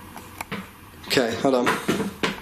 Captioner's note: knocking